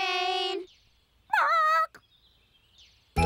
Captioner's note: squawks